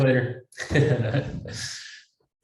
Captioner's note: laughs